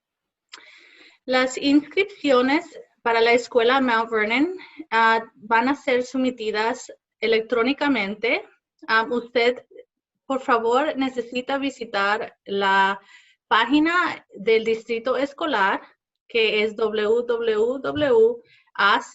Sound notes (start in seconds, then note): 1.1 speaking Spanish